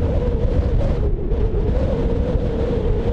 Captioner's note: whine whining